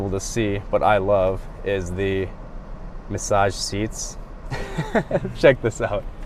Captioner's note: laughs